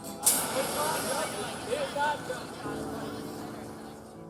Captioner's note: muffled chatter